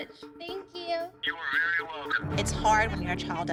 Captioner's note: on phone